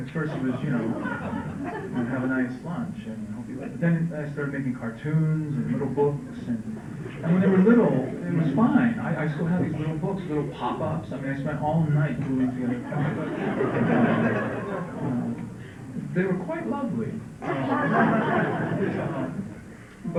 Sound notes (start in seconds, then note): 15.2 laughter